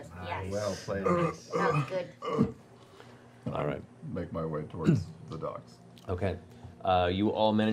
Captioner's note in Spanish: gruñendo